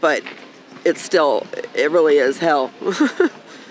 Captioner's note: chuckling